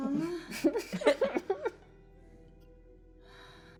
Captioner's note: laughing